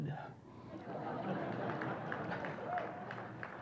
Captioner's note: laughter